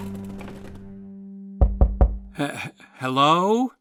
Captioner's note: knocking